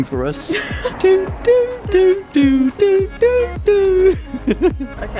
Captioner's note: man makes waiting sound